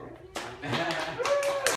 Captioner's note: clapping